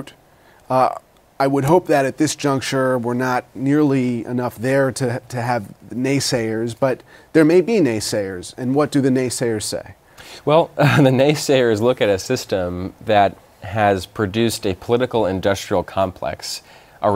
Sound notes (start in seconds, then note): 10.8 laughter